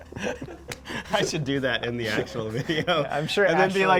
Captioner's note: both men laugh; laughing